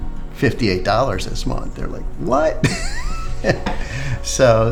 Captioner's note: laughing